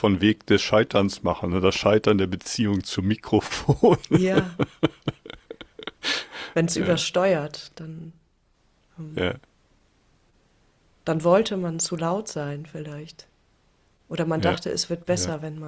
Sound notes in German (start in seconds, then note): 3.5 gelächter; 8.2 räuspern